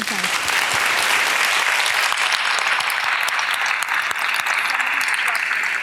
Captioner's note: audience applause